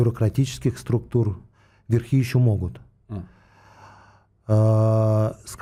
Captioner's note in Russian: вздыхает